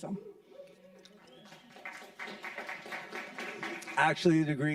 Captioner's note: audience clapping